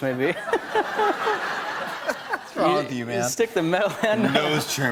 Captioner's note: laughter